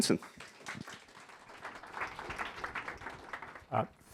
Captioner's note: applause